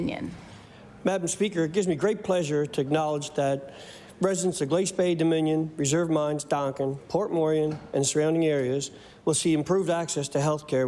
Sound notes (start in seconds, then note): none